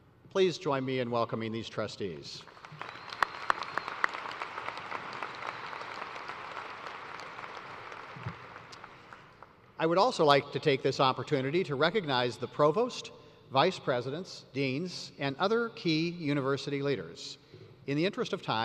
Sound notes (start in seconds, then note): 5.8 applause